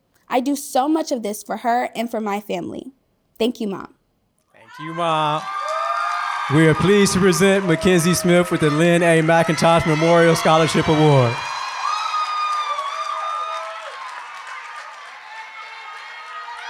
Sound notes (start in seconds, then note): 5.4 applause; 11.3 applause